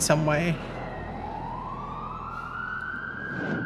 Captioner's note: siren wailing